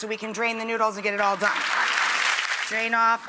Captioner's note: audience applauds